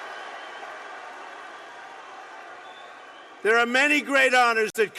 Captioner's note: applause